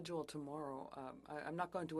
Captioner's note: speaking French